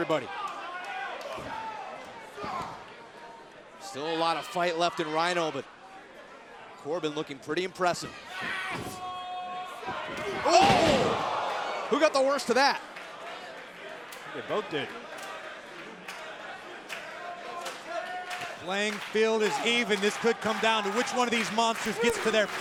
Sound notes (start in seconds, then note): 15.9 crowd cheering